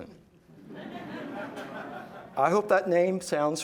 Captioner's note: laughing